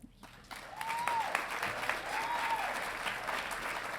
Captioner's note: audience cheering